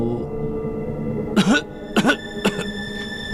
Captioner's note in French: Tousse